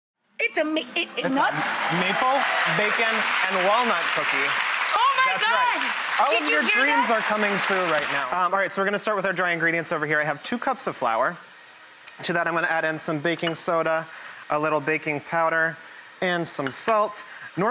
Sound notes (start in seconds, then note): 0.5 stuttering; 3.9 audience applauds